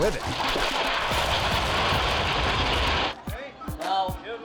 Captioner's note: bricks clattering